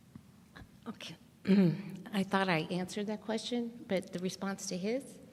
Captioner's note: coughs